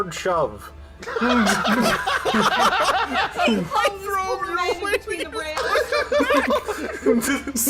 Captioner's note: laughter